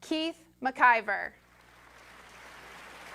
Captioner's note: applause